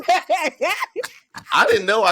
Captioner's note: laughter